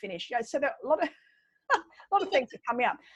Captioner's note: laughs